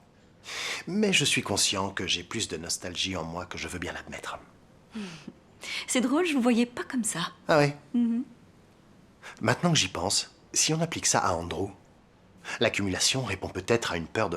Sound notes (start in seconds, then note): none